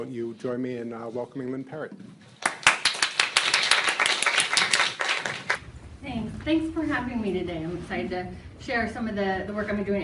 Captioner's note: applause